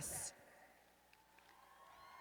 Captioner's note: cheers